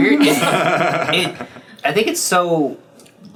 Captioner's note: laughs